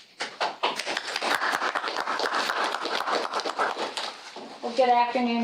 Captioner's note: applause